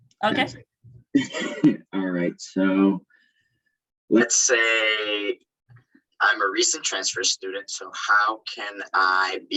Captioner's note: laugh